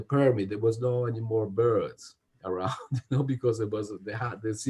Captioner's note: laughs